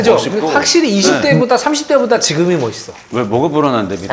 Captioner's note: hesitant